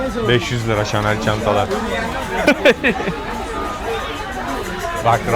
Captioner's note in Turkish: kahkaha